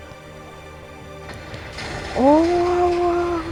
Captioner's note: explosion sounds